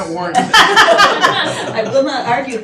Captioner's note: laughing